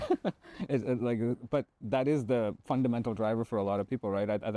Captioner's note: chuckling